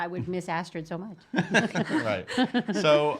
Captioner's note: laughing